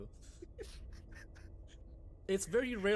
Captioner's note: laughs